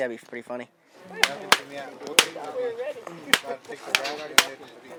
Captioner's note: cap gun firing